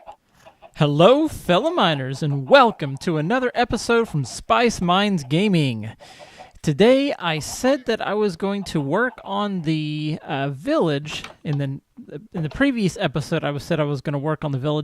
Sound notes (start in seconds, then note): 3.7 chickens clucking; 6.8 llama calls